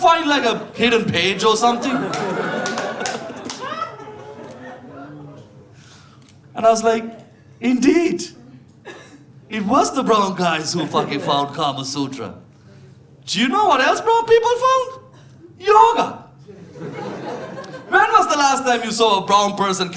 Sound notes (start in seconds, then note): 4.4 audience laughing